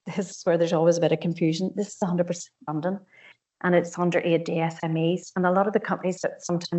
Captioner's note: audio distorts 50.07